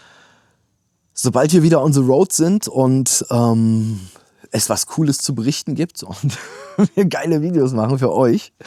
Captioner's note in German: gelächter